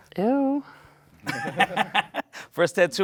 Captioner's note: laughs; all laugh